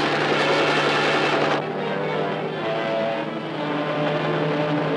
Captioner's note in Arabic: هدير المروحية